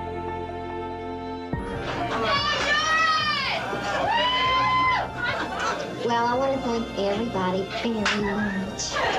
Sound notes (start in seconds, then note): 2.0 欢呼; 2.2 shout